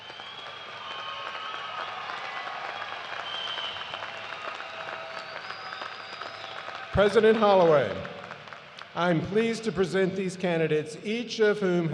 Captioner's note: cheers and applause